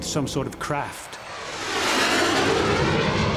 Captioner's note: jet whooshes past